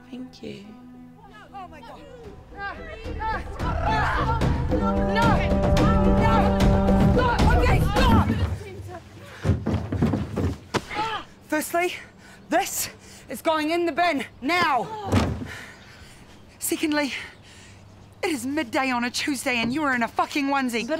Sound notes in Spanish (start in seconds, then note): 3.3 gritos; 4.0 Suena el cuerno de batalla; 10.4 Palmada